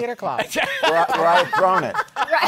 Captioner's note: laughter